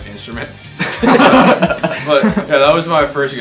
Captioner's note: laughter